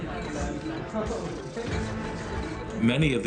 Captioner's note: glasses clink